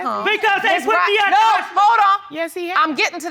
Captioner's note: yelling